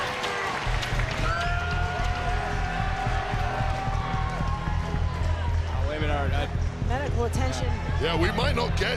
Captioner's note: audience cheering